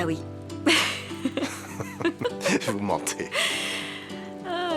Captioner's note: laughter